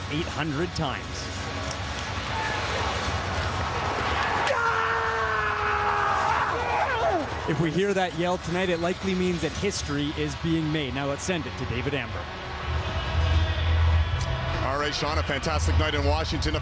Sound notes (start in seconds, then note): 7.8 screaming